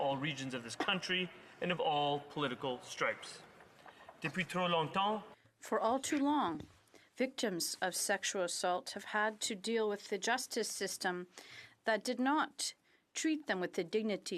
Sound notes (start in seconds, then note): 7.5 speaking French